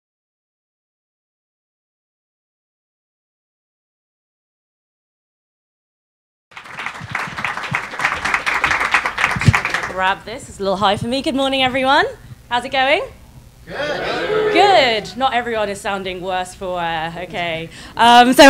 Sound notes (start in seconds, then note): 6.5 crowd clapping; 13.6 crowd